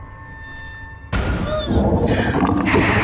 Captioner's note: gagging